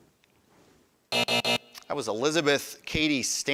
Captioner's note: buzzer buzzing